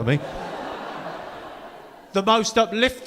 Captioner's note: audience laughing